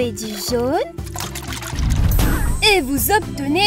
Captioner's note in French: boum